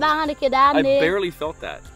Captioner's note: speaks in Mursi